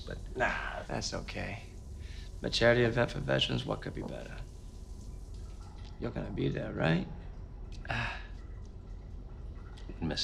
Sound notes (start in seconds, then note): 7.8 sighs